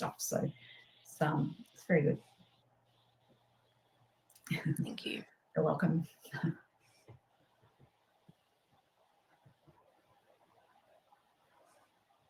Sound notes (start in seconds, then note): 7.1 chuckles